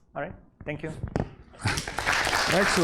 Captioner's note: applause